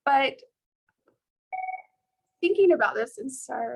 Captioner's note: beeping